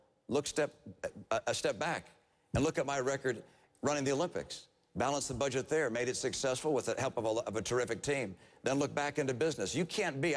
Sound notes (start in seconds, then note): none